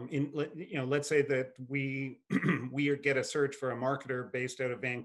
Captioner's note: clears throat